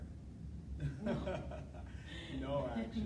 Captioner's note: laughing